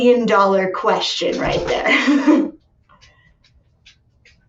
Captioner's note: chuckles